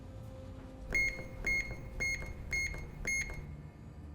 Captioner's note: beeping